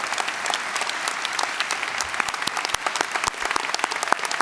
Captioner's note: applause